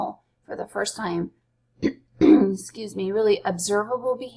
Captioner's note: coughs